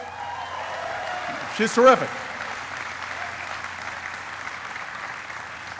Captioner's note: applauding